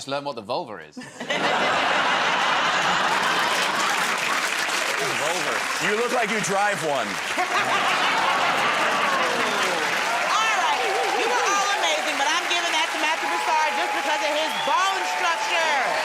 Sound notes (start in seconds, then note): 1.0 laughter; 7.2 laughter